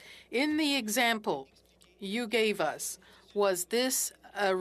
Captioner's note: speaking French